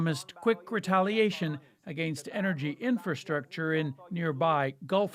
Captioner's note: speaking alternate language